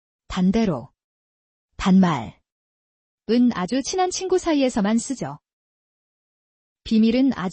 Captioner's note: casual speech